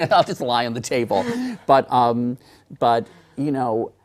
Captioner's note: laughter